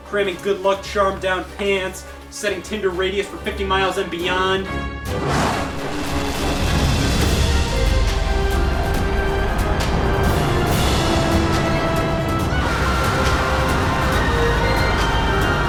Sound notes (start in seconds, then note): 5.1 rocket engine roaring; 7.5 inspiring music; 11.9 group screaming